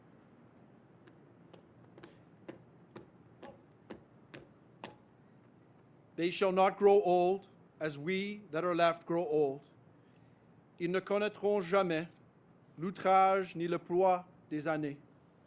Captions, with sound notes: They shall not grow old as we grow old. (Speaks French)